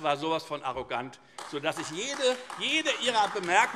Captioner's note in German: Beifall AfD